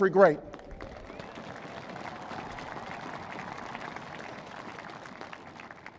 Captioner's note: applause